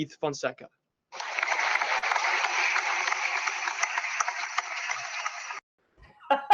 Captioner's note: applause